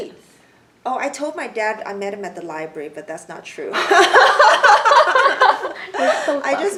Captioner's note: everyone laughs